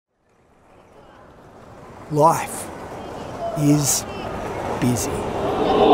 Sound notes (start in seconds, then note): 0.3 busy sounds of street crowds